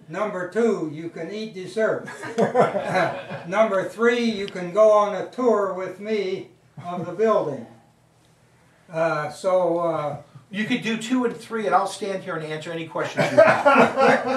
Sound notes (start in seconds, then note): 2.2 audience laughing; 13.2 audience laughing